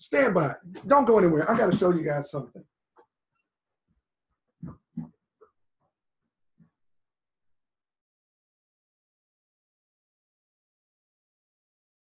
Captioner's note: chair squeaks - footsteps coming back